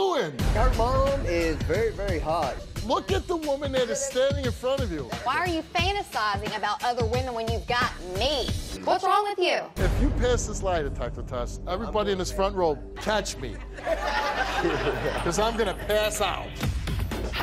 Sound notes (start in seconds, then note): 13.4 audience laughs